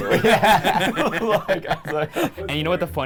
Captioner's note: laughing